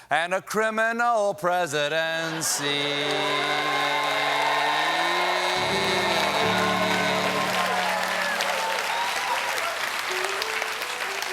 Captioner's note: applause